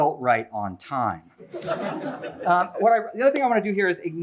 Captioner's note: laughter